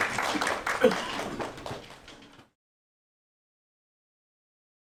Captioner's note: attendees applauding